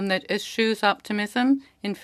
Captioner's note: speaking French